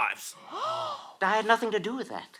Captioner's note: gasps